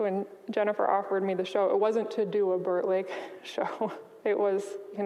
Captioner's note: chuckles